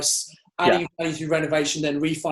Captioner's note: mic cracking